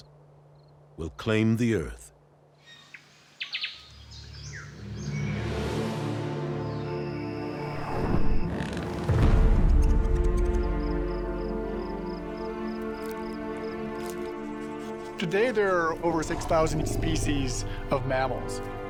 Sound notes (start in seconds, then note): 2.5 birds twittering; 7.6 animals grunting and chittering